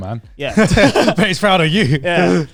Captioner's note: laughing